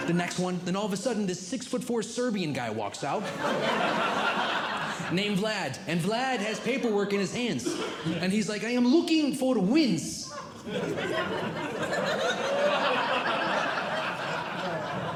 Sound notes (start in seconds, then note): 3.1 audience Laughing; 10.2 audience Laughing